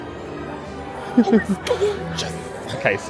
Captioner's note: chuckles